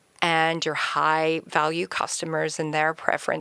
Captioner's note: none